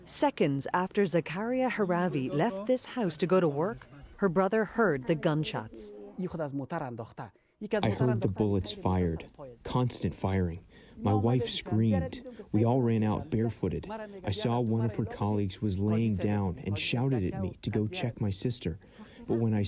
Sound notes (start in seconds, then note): 7.7 through translator